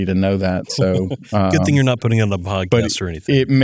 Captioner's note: laugh